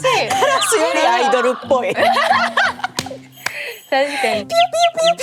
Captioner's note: laughs